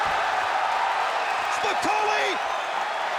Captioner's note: audience cheers